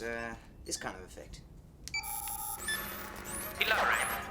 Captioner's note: zap